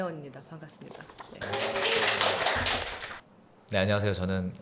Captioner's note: applause